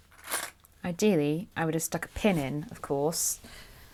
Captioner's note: clips rattling